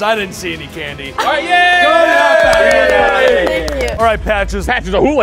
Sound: cheering

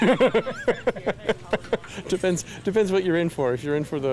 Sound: laughs

